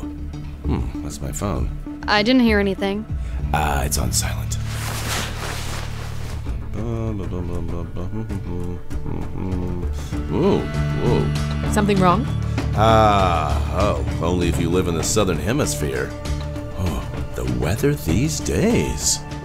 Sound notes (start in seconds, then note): 4.5 shuffling; 6.6 humming